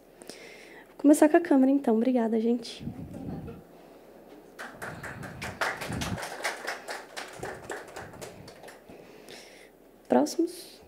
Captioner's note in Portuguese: palmas